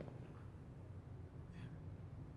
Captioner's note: whispers